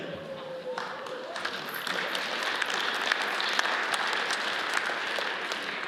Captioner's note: audience cheers and applauds